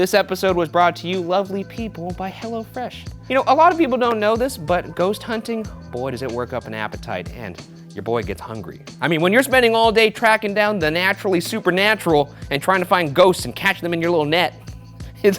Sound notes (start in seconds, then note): none